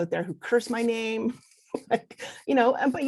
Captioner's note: laughs